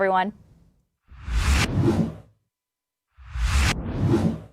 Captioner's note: logo whooshing